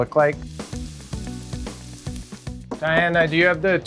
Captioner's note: food sizzling